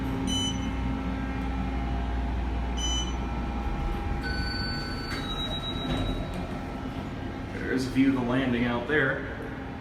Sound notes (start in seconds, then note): 4.1 elevator Chimes